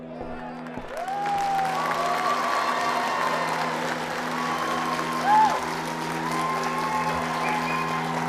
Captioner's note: cheering and applause